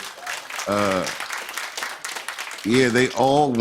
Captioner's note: applause